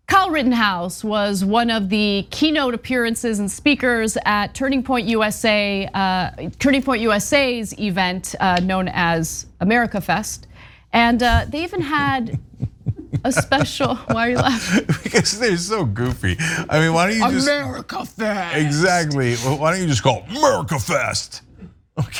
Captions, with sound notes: Kyle Rittenhouse was one of the keynote appearances and speakers at USA turning point USA's event known as America Fest. And they even had a special >> [LAUGH] >> Why are you laughing? >> Its cuz they're so goofy. I mean, why don't you America? Exactly, why don't you just call Murka Fest?